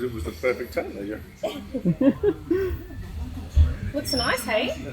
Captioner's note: laughing